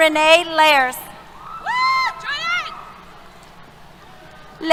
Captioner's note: cheers